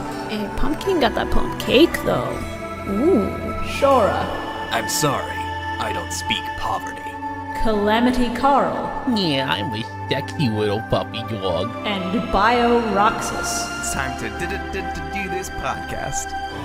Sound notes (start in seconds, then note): 4.5 Seto Kaiba voice; 9.0 Joey Wheeler voice